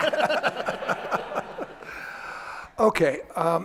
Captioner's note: audience laughter